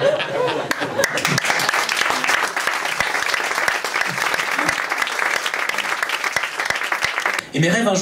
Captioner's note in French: applaus public